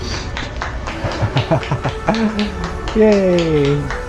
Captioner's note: clapping